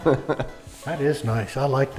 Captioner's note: laughs